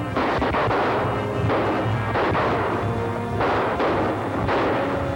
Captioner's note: gunshots